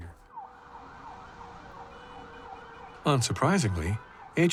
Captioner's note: siren wailing